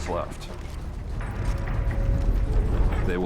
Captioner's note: marching footsteps